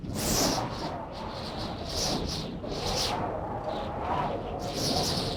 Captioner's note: wind howling continues